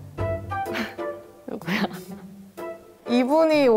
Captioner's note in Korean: 웃음